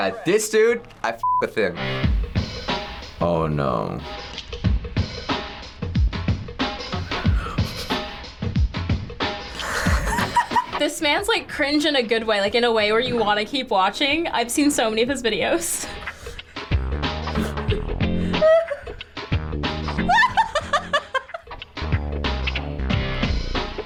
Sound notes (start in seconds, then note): 2.0 hip hop music; 5.0 hip hop music; 7.0 giggling; 17.3 giggling